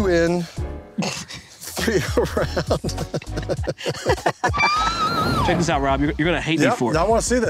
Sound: laughter

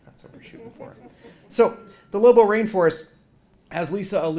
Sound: laugh

